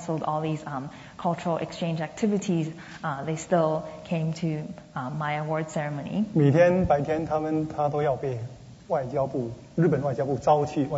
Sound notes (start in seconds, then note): 0.0 speaking Mandarin; 7.1 speaking Mandarin